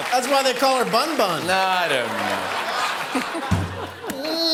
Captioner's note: laughs